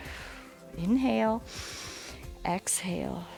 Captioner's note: exhales; inhales